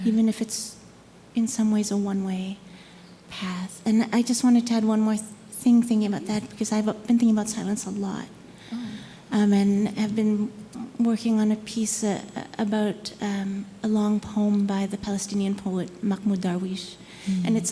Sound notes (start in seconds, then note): none